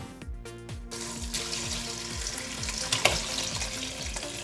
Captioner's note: water pouring